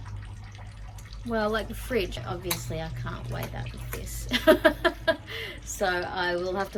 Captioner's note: laughs